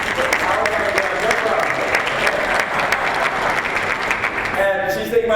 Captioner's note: applause